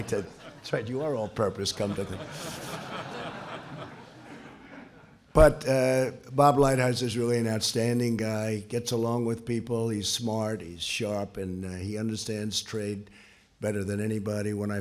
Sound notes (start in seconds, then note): 0.0 laughter